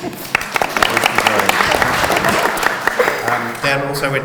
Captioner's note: audience applauds